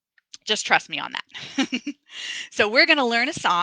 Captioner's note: laughs